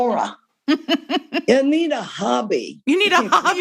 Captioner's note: laughter